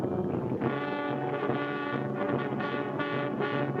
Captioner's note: water bubbles